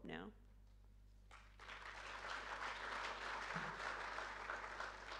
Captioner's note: audience applauding